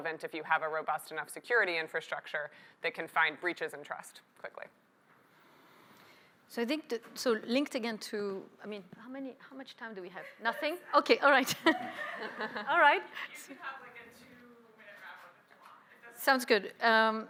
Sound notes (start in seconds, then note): 11.4 laughter